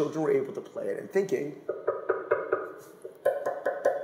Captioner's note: knocking